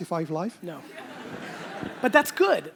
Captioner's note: audience laughter